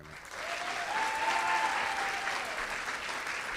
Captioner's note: audience claps